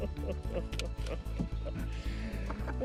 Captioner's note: laughs